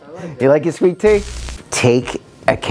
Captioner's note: static buzzing